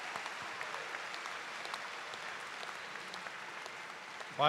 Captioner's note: cheers and applause